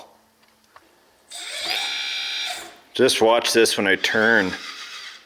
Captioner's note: motor whirs